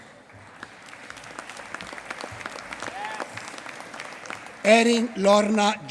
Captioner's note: applause